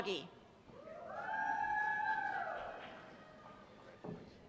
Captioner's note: cheers